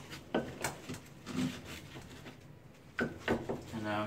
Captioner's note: board taps